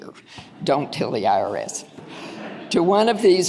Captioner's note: audience laughing